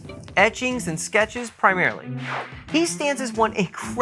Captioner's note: swish